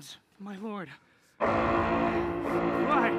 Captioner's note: alarm sounding